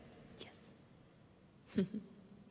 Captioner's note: whispers